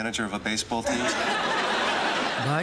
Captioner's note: laughter